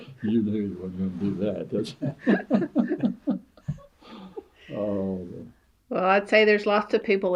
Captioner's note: laughter